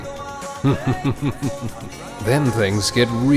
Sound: chuckles

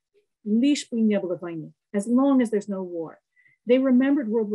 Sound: speaking russian

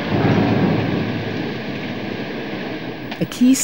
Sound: sound of the metal works

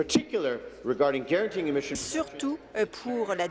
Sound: speaking in French

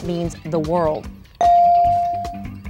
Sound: ding

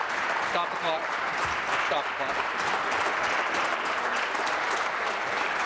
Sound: applause

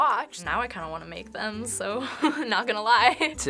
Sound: laughs

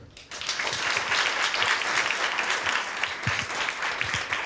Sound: audience applauding

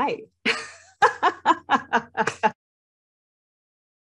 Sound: laughs

